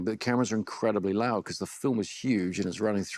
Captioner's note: none